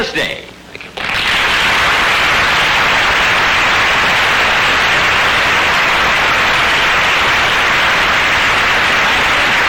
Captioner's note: audience applause